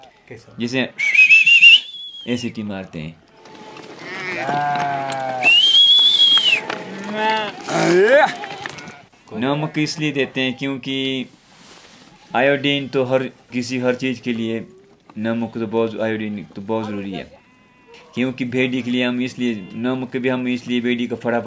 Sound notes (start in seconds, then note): 0.9 whistles repeatedly